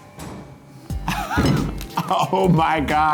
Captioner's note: meat thuds; laughs